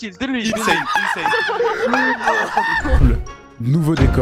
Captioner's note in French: Rires